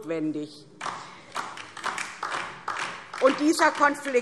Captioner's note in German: Beifall DIE LINKE